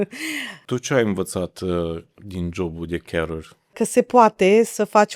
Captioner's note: laughter; gasp